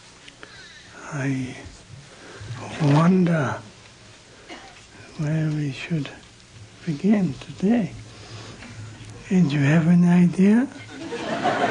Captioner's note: laughter